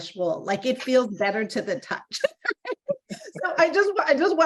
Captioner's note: both laughing